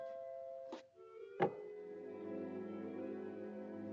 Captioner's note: whimsical music; cutout clicks into place